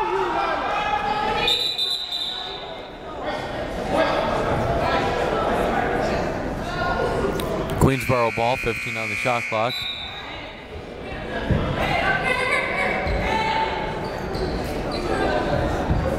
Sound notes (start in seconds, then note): 1.4 whistle blaring